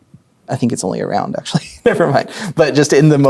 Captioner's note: chuckling